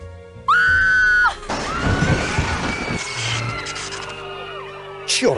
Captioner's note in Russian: Крики